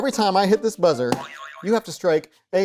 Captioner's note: buzzer boing